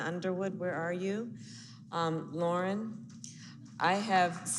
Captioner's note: applause